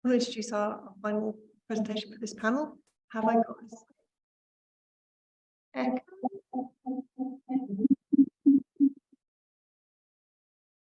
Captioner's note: audio feedback